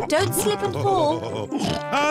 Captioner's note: laughs